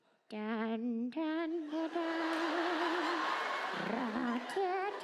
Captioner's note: hums wedding march